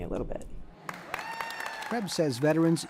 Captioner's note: applause